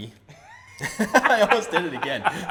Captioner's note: laughs